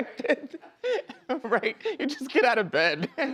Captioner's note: laughs